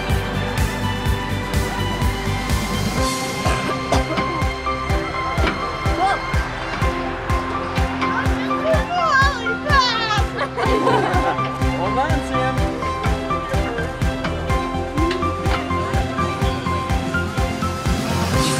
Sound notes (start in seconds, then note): 10.1 giggling